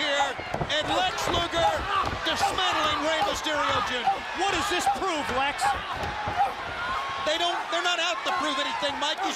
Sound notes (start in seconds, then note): 7.3 crowd chatter